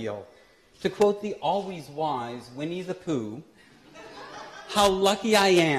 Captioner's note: laughter